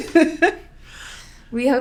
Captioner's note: laughing